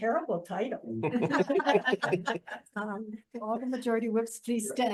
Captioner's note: people laughing